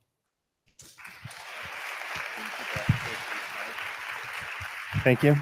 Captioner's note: audience applauding